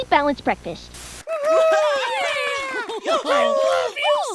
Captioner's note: static; applause